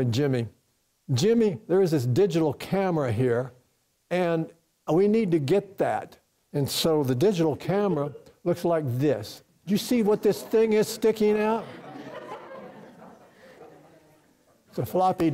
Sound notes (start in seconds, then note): 10.0 laughter from the audience; 11.2 more Laughter